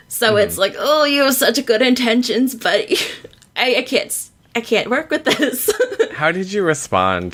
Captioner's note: laughs